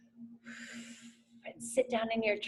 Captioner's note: exhales heavily